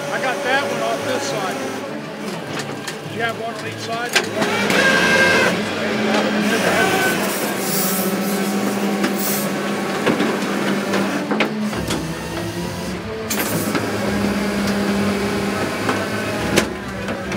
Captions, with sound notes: - I got that one on this side. Do you have one on each side? (machinery clunking) (exciting music)